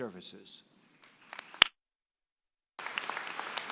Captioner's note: applause